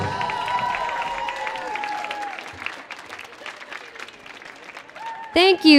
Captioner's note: audience cheering and applauding